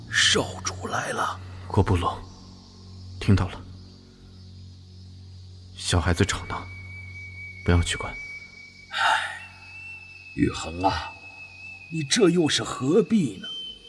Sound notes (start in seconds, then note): 8.9 sigh